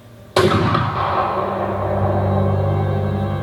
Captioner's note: SFX - Rifle Shot